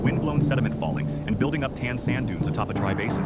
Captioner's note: soft wind blowing